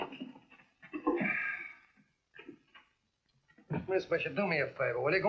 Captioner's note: clanging; sighing